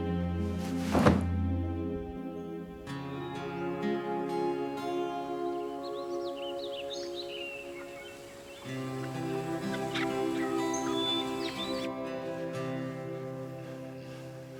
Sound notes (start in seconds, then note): 0.7 thud; 3.9 hopeful music